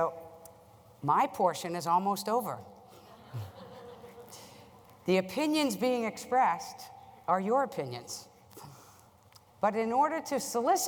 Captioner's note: laugher